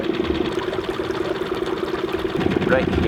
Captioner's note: boat engine whirring